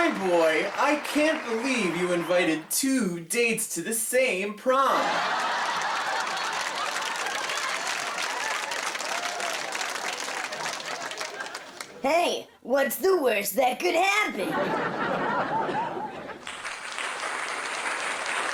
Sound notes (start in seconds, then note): 4.7 laugh Track; 14.4 laughter and applause